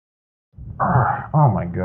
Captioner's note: grunts in pathetic struggle